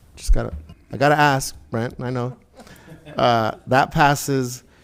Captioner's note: committee members laughing